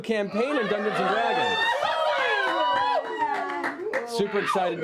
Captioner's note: cheering